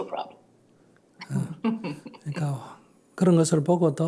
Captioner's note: questioner Laughter